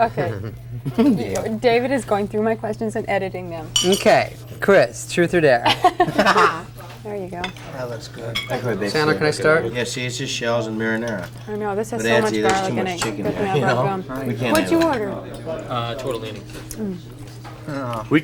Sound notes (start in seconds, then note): 5.6 laughs